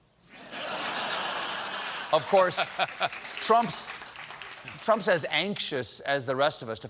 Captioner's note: laughter